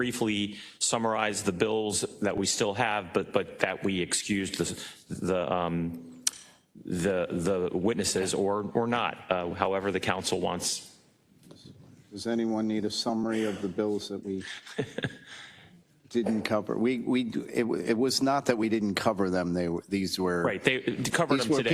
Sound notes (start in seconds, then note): 14.3 laugh